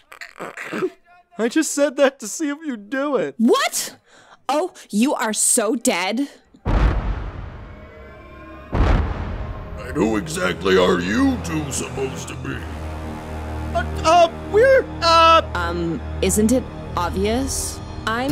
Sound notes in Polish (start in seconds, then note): 0.0 śmiech